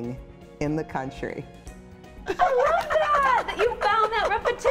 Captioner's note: laughing